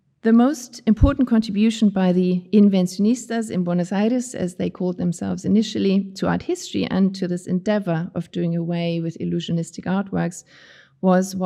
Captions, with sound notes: The most important contribution by the (speaking in foreign language) in Buenos Aires, as they called themselves initially, to art history and to this endeavor of doing away with illusionistic artworks was